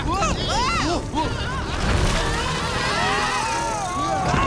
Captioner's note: screaming